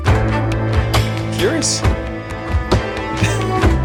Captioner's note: laughs